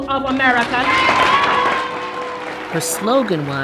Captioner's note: crowd cheers